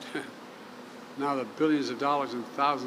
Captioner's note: laughs